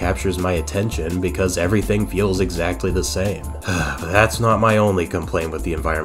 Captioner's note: sigh